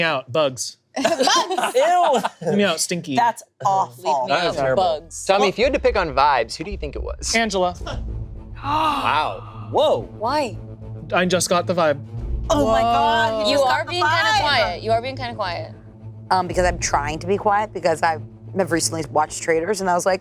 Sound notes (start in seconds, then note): 1.0 group laughing; 7.9 dramatic music; 8.7 gasping